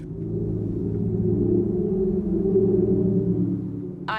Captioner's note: whistling